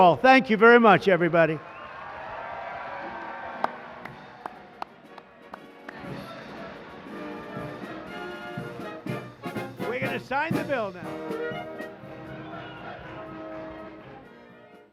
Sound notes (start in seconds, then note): 1.2 cheers and applause; 8.2 patriotic music playing